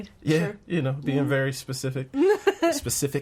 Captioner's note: laughing